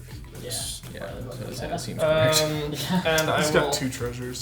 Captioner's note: players chattering